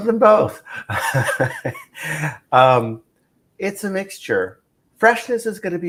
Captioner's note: laughs